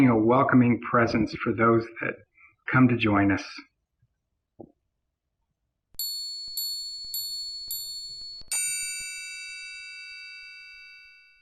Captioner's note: bells chiming